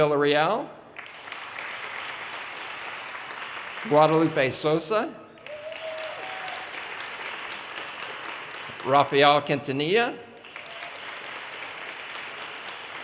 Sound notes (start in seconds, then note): 0.0 audience applause; 3.3 audience cheers and applause; 8.2 audience cheers and applause